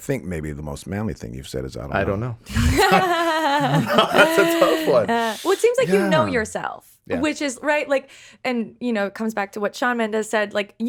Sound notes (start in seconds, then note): 2.5 chuckles; 2.5 chuckling